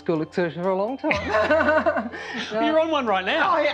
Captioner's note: both laughing